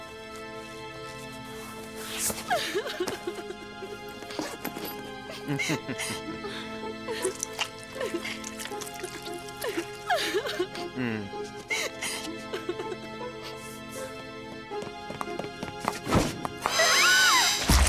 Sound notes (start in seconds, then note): 2.4 sobbing; 5.3 evil laugh; 8.8 sobbing continues; 14.4 running footsteps